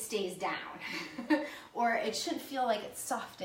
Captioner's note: laughs